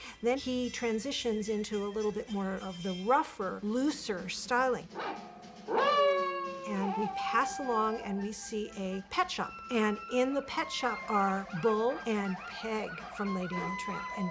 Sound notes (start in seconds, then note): 4.9 barks, howls